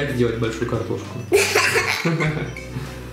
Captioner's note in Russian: смех